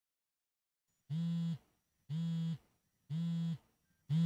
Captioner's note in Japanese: 📱携帯のバイブレーションの音：ブーブーブー